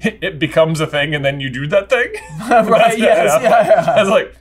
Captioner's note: laugh